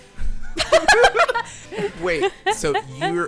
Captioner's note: everyone laughing